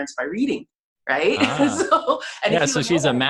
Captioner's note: laughs